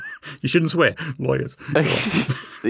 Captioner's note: laughs